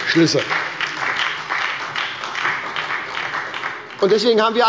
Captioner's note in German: Beifall bei der SPD